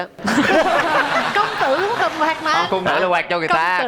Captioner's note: laughing